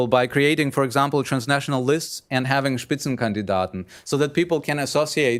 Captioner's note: speaking german